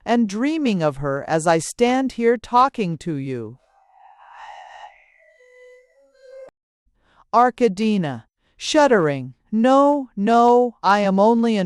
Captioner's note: shuddering